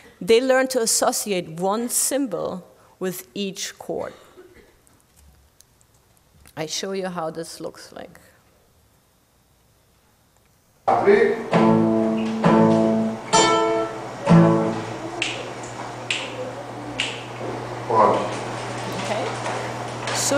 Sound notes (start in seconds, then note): 11.4 playing guitar; 15.1 snapping fingers